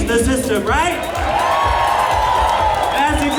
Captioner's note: cheers